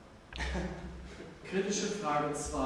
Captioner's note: laugh